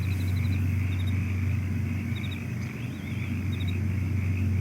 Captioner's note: crickets chirping; frogs croaking; crickets chirping